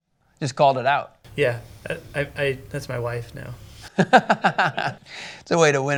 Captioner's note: laughing